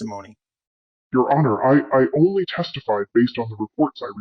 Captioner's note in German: verzerrt